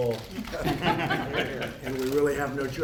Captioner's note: laughter